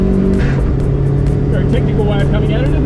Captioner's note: gear shifts